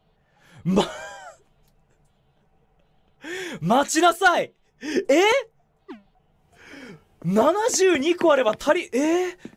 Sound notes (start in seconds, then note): 3.2 breathes; 3.2 inhales